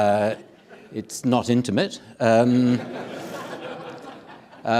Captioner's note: audience laughing